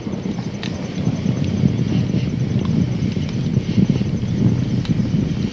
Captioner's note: fire roaring